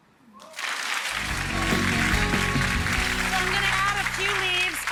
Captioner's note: applause